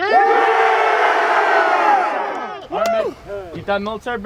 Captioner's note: trainees cheering